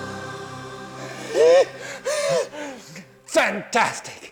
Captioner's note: laughs